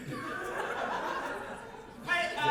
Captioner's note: audience laughter